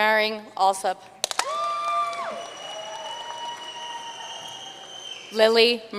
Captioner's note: audience cheering and applauding